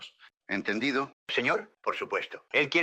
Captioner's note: in spanish